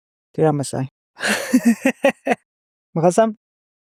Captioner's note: laughs